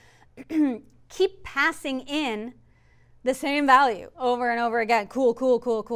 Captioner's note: cough